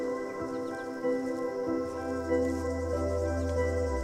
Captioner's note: birds chirping